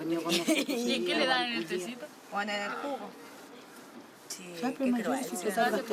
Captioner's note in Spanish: Personas hablando